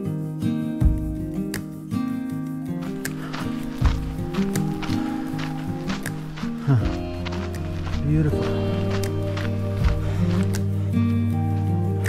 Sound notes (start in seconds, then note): 3.1 footsteps crunching